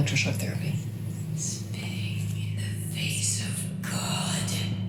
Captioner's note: whispering voices in background continue